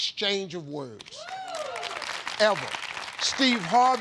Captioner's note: audience cheers and applauds